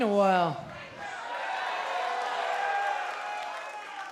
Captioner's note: crowd cheering